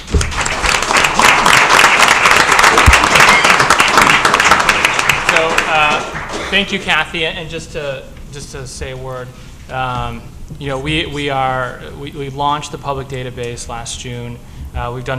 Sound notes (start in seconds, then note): 7.6 applause